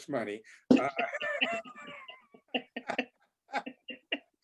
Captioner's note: all laugh